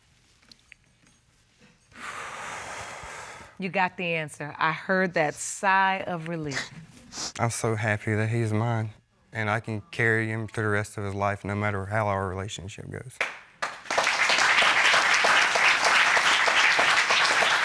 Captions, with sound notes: [exhales deeply] You got the answer. I heard that sigh of relief. [sniffles] I'm so happy that he's mine and I can carry him through the rest of his life no matter how our relationship goes. [applause]